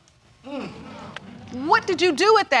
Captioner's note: audience exclaiming